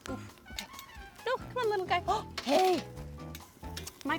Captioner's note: gasp